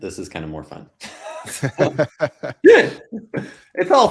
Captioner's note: both laughing